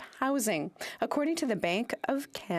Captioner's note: speaking French